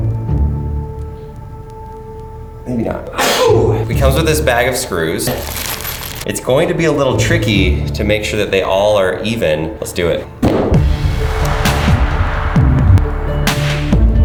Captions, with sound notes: Maybe not. (sneeze) It comes with this bag of screws. It's going to be a little tricky to make sure that they all are even. Let's do it. (upbeat inspiring music)